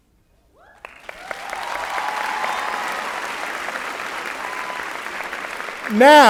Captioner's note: applause and Cheering